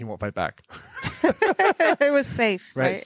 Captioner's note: laughing